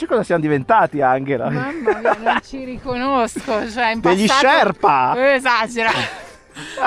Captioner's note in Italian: risate